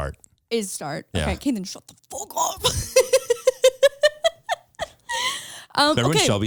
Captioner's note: laughs